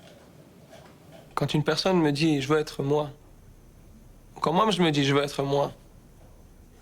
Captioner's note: speaking in foreign language